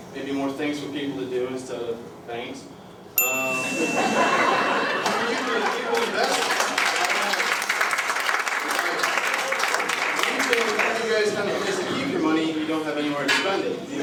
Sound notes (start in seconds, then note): 3.2 ding; 3.8 laughter